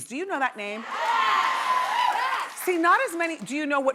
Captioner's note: audience cheering yes